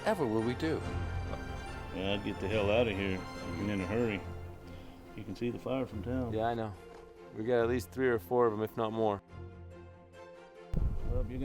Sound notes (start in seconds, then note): none